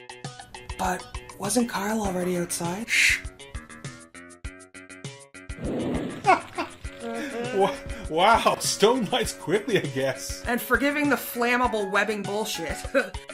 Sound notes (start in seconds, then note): 5.5 sound of fire burning is heard; 5.7 laughing